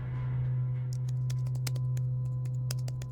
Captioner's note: keyboard clicks